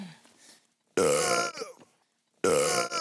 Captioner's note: burp